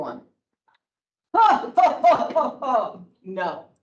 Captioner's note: laughs sarcastically